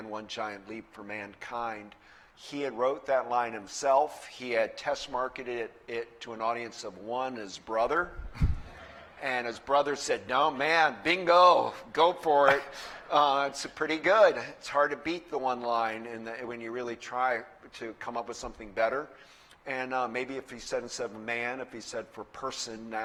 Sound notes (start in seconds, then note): 8.2 laughter